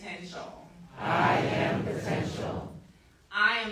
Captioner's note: crowd